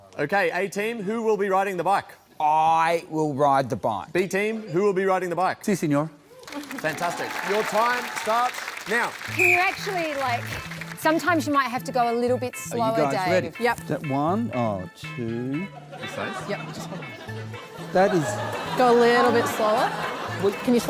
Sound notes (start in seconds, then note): 9.2 blows whistle